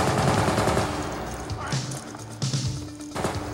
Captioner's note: guns firing